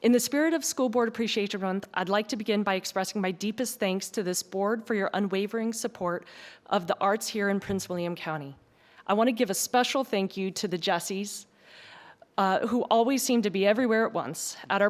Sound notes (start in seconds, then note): none